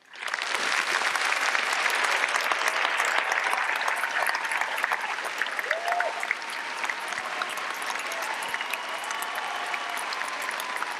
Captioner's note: applause